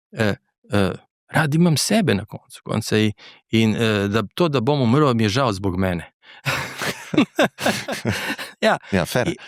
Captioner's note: laughs